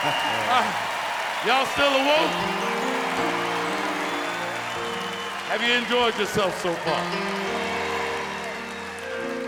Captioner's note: applause